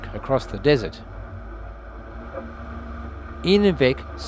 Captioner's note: vehicle sounds